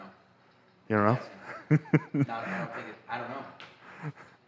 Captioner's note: laughs